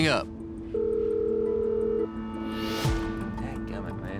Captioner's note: dialing number